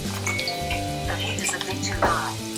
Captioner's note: electronic beep